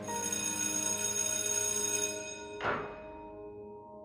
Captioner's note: bell rings